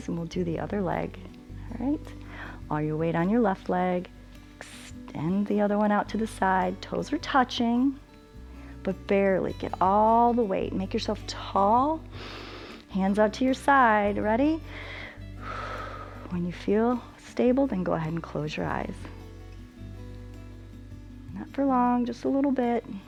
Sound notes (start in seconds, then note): 12.1 inhales; 14.6 exhales